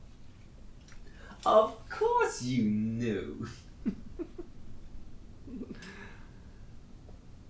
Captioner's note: Captain Brookes laughs